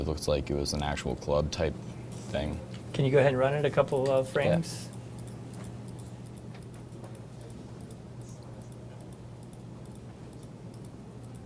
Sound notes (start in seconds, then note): 5.8 mouse clicking